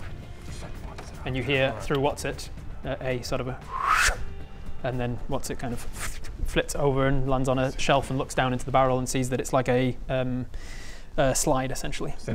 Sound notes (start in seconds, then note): 3.7 whoooscchum